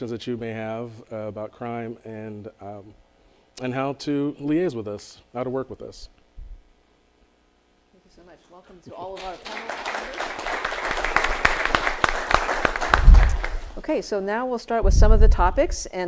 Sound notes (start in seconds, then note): 9.0 audience applauding